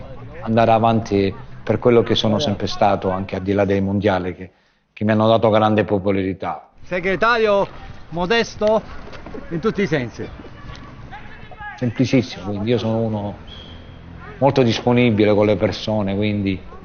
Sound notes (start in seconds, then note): 6.5 toto speaking italian